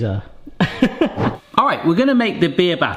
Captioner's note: laughs